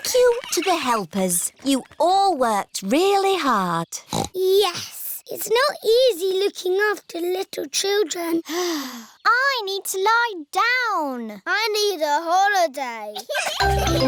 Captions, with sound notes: Thank you to the helpers. You all worked really hard. Yes. It's not easy looking after little children. (SIGHS) I need to lie down. I need a holiday.